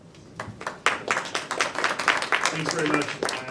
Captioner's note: applause